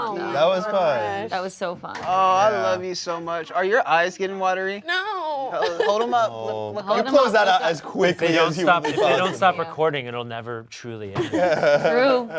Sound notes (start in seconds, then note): 5.6 laughs